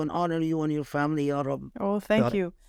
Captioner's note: speaking Arabic